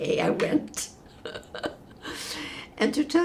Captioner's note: laughing